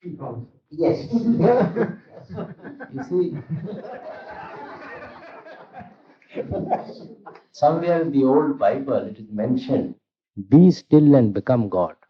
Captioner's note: laughter